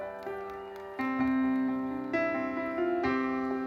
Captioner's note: audience applauding; audience cheering; gentle uplifting music continues